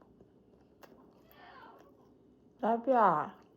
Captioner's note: sleepy cat noises